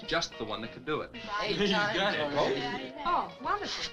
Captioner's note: all chattering